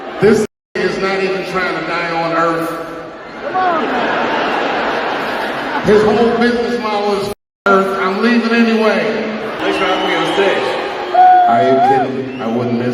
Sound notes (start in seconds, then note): 3.4 laugh